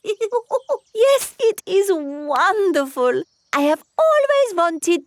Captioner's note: laughs